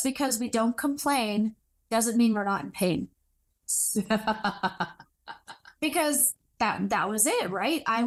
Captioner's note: laughs in agreement